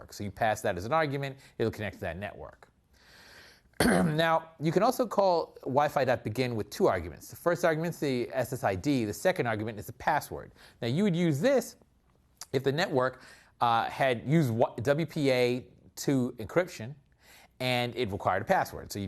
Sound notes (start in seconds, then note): 3.8 cough